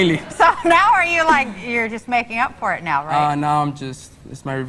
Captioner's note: laughs